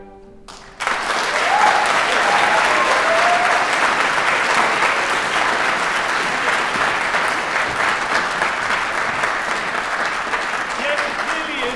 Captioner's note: applause